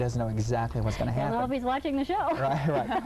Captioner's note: laughing